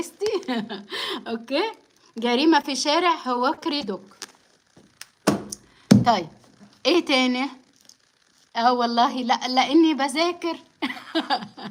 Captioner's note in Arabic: ضحك